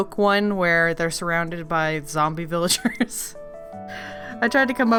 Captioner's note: laughs